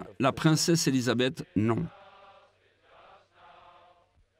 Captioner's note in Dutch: Crowd